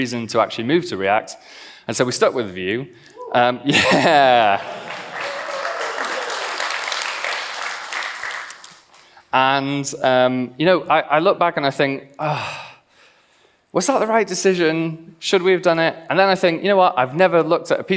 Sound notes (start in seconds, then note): 3.7 laughs; 4.6 claps